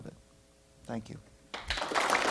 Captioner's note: applause